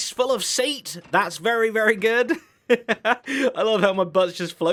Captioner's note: laughs